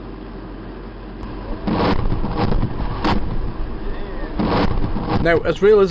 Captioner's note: explosion